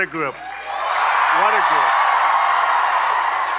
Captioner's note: applause